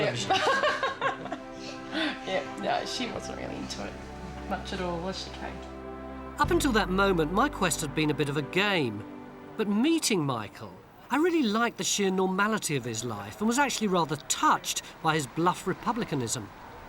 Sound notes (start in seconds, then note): 0.3 laughs